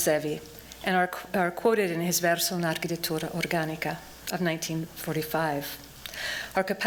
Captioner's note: non-english speech